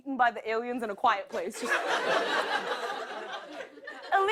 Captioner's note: laughter